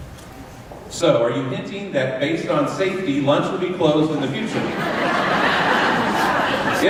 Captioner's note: laughter